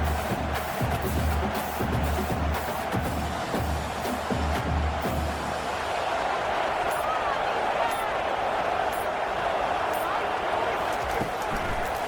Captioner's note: crowd Noises